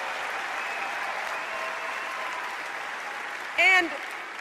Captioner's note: applause